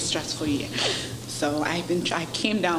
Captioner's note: sobs